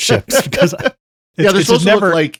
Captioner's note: laughing